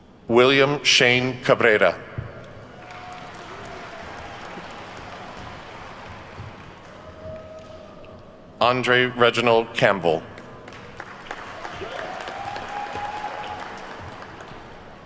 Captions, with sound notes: William Shane Cabrera. (attendees clapping) Andre Reginald Campbell. (attendees cheer and clap)